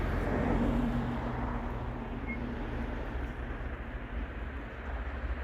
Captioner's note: cars whirring in the background